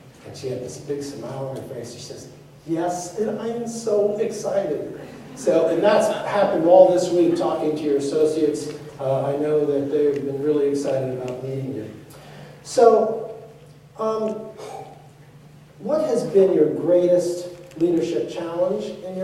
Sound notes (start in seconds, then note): 5.0 laughter